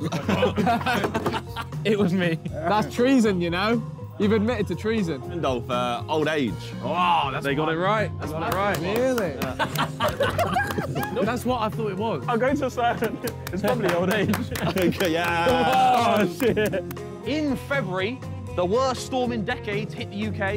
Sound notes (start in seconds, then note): 8.2 men laughing; 15.5 men clapping